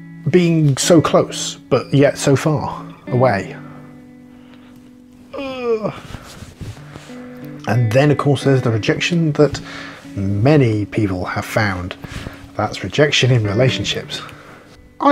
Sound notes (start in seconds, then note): 5.3 euuugh